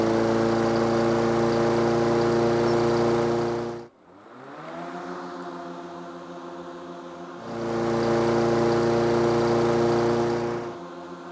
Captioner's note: lawnmower sounds